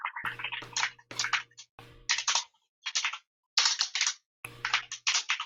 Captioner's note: keyboard keys clanking